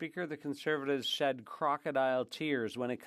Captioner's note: speaking French